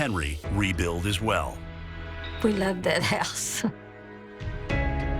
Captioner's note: chuckles